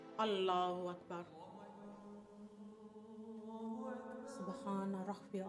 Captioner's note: speaking foreign language